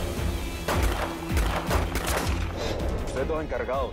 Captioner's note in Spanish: Disparos